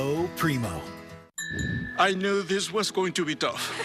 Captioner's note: clinking of glasses; crowd laughs